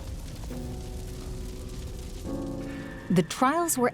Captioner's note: fire crackling